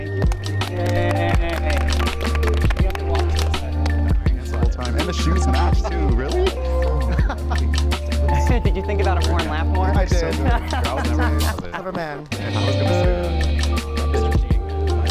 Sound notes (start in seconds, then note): 0.0 men applause; 0.3 upbeat music; 7.6 men chattering; 7.6 upbeat music